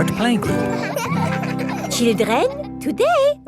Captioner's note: children laughing